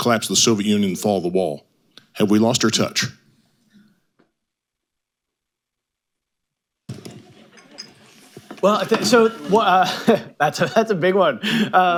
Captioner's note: laughs